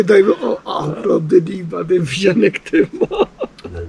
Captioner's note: laughs